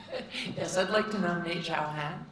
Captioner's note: giggles